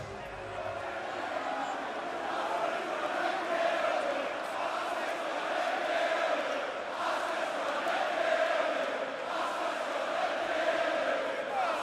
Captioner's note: crowd chatter